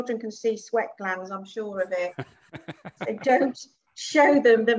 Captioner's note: laughs